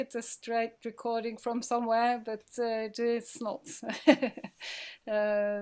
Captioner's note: laughing